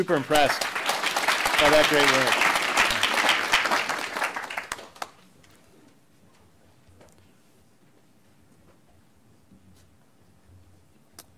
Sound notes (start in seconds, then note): 2.6 applause